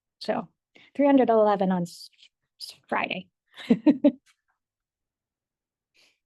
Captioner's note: laughs